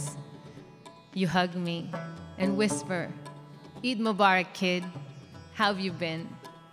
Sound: speaks in foreign language

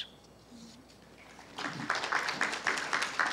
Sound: applause

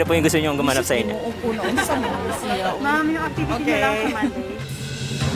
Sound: laughs

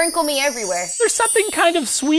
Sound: jingly bells

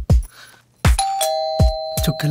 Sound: door bell rings

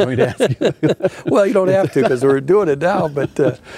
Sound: laughing

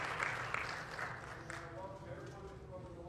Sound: applause

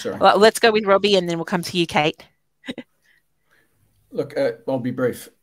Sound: laughing

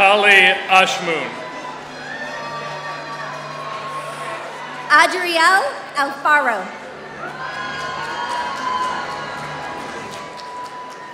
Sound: applause

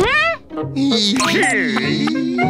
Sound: groaning

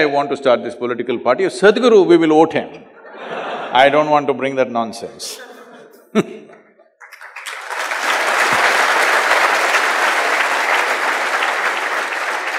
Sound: laughter; laughs/Applause

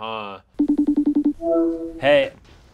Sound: Skype dial tone sound

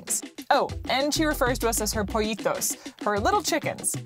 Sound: foreign language

